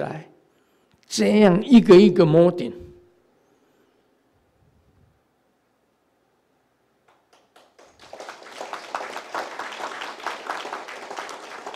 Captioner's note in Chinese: 眾鼓掌